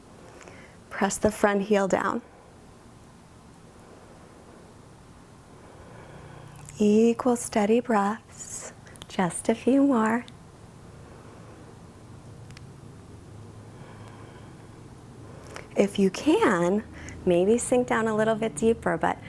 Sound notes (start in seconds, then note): 11.1 inhales; 13.7 exhales